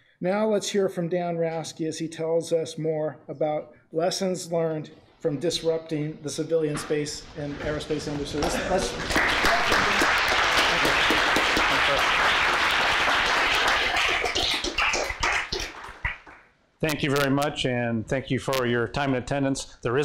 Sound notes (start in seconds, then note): 8.4 applause